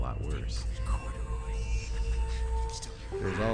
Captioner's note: people whispering & snickering